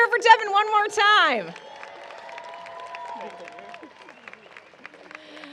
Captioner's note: cheering and applause